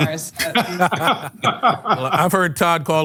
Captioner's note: <i>laughter</i>